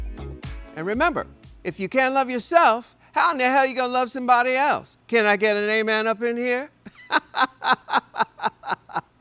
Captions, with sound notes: - And remember, if you can't love yourself, how in the hell you gonna love somebody else? Can I get an amen up in here? [laughs]